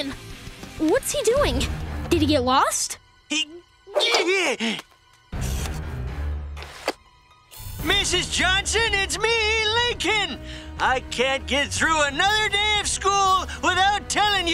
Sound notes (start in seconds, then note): 2.7 grunting